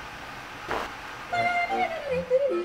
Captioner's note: fart; yodeling music